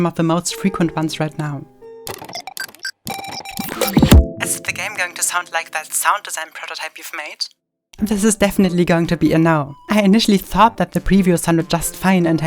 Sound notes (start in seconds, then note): 3.2 electronic beeping; 4.5 electronic Voice